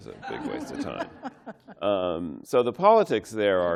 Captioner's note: laughter